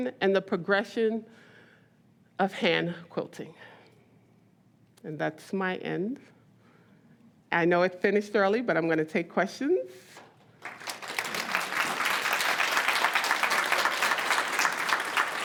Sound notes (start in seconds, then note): 10.6 audience applauds